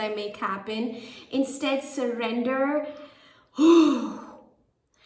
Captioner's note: exhales